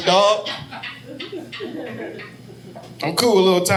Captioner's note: audience laughing